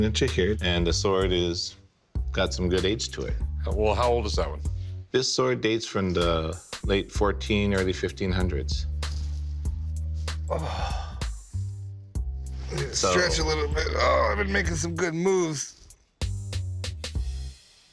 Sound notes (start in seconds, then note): 8.7 jazzy bass music; 10.2 exhales